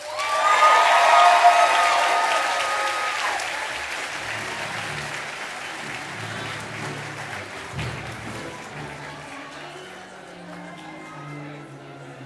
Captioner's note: cheers and applause